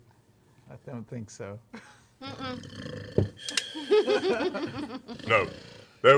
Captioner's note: snoring